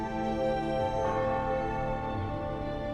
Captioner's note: church bell ringing